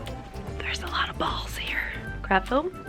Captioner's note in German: flüstert